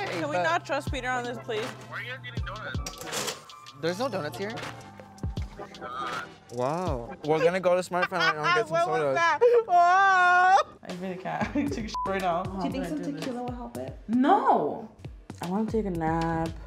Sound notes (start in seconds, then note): 7.2 laughing; 11.9 beep